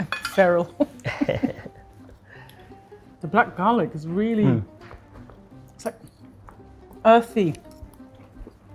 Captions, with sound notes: - I'm feral. (both laugh) The black garlic is really, it's like earthy.